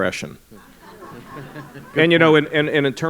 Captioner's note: laughter